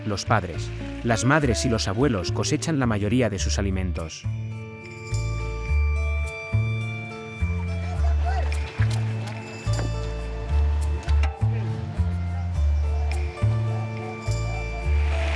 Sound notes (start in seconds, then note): 4.6 light music; 8.4 people chattering